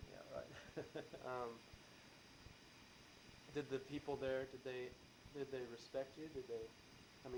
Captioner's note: laughs